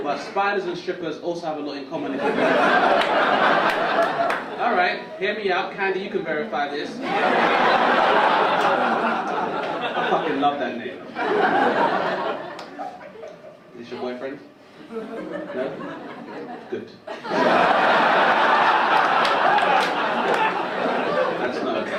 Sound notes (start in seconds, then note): 2.1 audience laugh; 9.6 audience laugh; 18.9 audience laugh